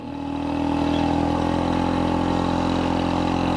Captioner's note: engine rumbles